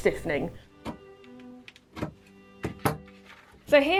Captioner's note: gentle lively music; scissors cutting; scissors thudding